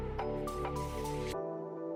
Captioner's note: none